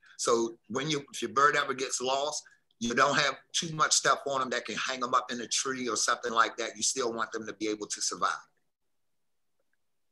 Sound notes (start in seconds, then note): none